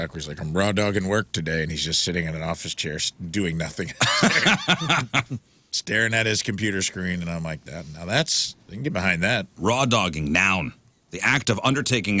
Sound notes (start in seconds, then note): 4.0 laughing